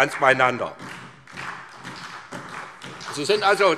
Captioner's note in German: Beifall SPD